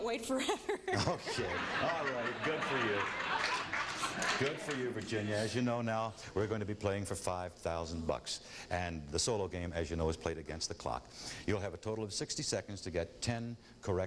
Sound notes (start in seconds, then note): 0.9 audience laughing; 3.3 clapping